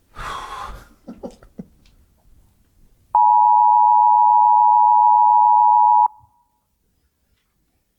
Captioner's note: sighs; alarm beeping